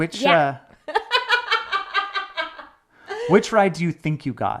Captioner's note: laughs